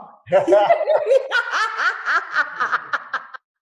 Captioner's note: laughing